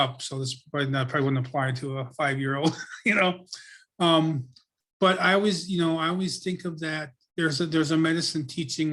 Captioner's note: laughs